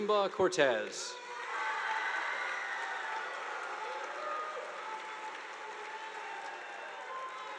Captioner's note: audience applauding; students cheering